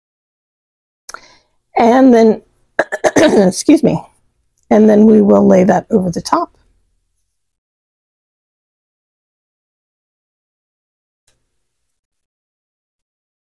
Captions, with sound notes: And then (clears throat) excuse me, and then we will lay that over the top.